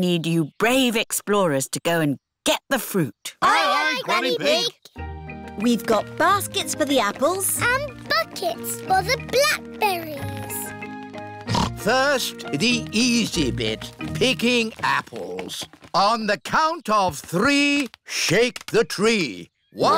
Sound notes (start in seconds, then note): 11.4 snorts